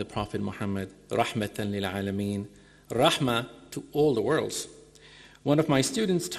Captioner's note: speaking in foreign language